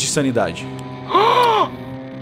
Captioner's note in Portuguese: som de surpreso